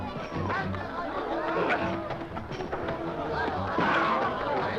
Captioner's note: men shouting